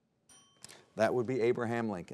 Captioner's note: bell dings